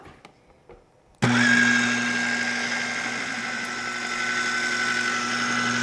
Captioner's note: processor whirring